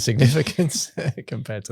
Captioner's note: laughs